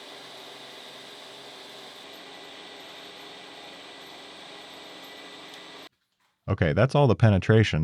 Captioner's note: machine whirring